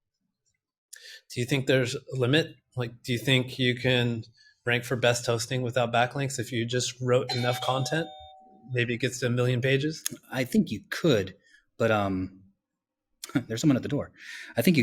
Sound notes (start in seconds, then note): 7.3 doorbell rings